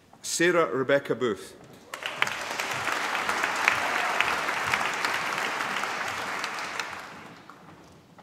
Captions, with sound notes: Sarah Rebecca Booth. (APPLAUSE)